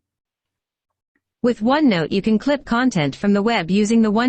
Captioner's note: computerized voice